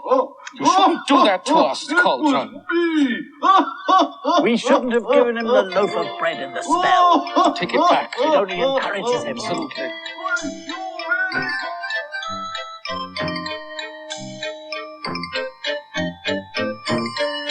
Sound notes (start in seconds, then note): 3.1 still Laughing; 10.2 still Laughing; 13.3 voice Fades